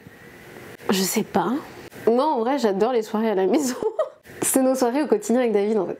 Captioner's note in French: rires